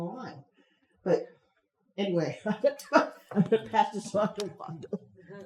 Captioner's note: chuckles